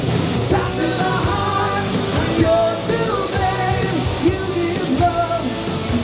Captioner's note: crowd